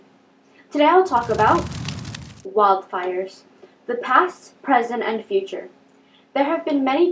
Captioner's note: flames